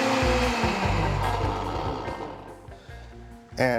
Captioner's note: blender stops